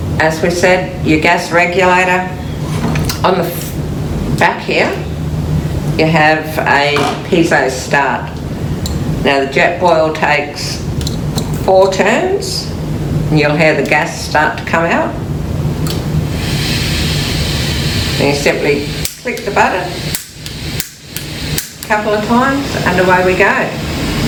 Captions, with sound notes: As we said, your gas regulator on the back here, you have a piezo start. Now JetBoil takes four turns, you'll hear the gas start to come out. (gas fizzing) And you simply click the button (clicks) a couple of times and away we go.